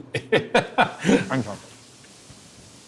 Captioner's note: laughing